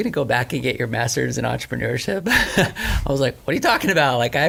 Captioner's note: laughs